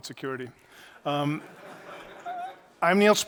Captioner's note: laughter